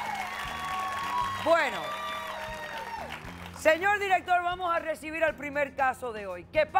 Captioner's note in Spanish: Aplausos